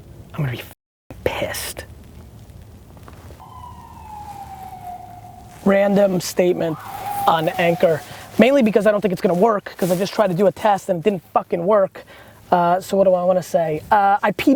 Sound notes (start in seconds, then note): 3.4 siren